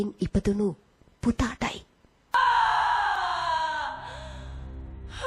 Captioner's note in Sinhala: කෑ ගැසීම